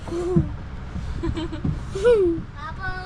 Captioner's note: laughter